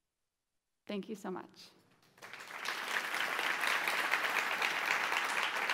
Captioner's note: audience applauds